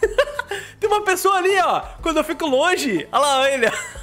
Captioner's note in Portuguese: risos